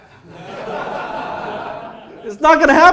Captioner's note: audience laughs